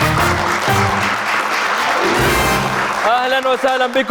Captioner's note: clapping